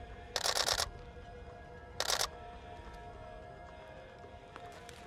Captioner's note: camera shutter snapping